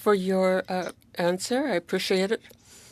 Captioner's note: speaking French